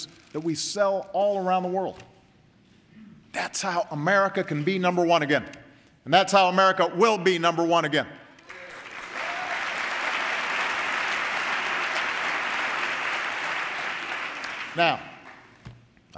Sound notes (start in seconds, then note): 8.4 applause